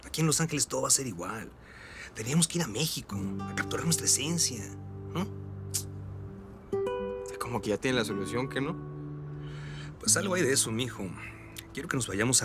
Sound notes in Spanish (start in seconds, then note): 5.7 Chasquido bucal